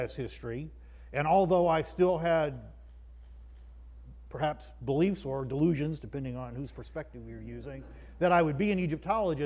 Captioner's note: croud laughs